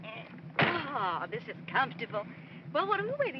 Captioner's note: door closes